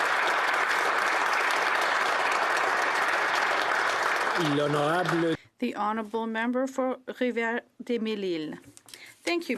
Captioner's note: applause